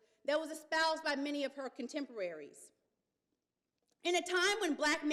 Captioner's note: none